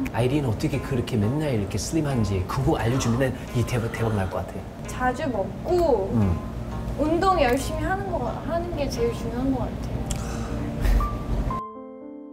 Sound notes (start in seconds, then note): 10.1 sighs